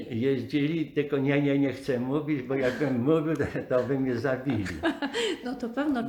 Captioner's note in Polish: śmiech